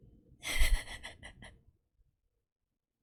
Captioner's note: laughs